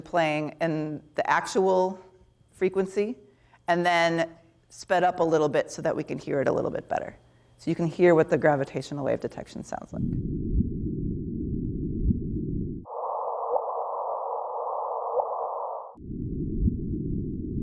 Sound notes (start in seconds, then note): 11.1 whooshing sounds